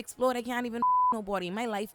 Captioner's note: beep